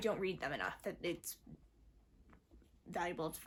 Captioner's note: mumbles